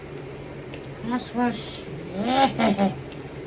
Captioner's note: evil giggle